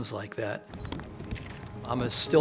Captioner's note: camera shutter clicks